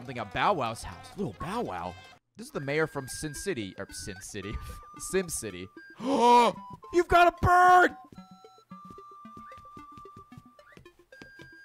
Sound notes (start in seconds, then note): 5.9 gasps